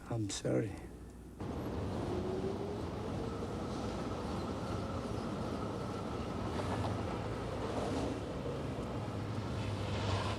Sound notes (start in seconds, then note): 1.6 wind howling; 6.3 car engines revving